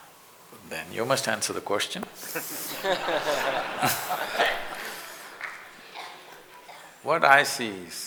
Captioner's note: laughter